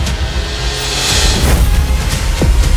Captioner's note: thud